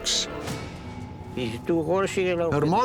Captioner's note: speaking portuguese